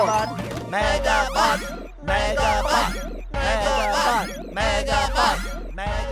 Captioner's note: crowd chanting "Megabot!"